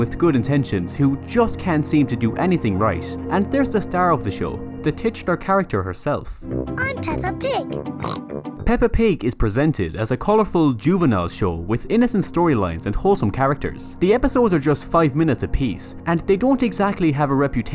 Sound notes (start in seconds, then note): 8.0 snort